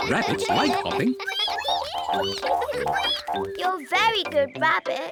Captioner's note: all giggle; all squeak